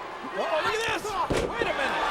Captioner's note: Batista thudding